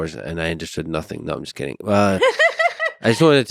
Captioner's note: laughs